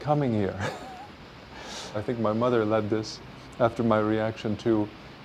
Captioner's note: chuckles